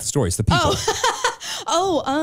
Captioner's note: chuckles